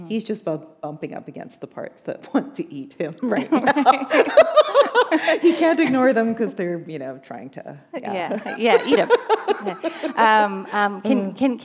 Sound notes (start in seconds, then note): 4.2 laughter